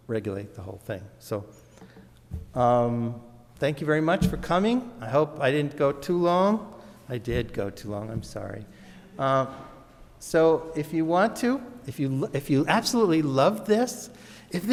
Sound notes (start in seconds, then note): 9.0 audience murmurs